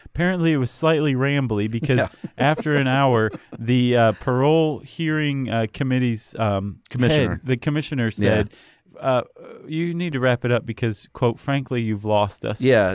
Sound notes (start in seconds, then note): 1.7 chuckles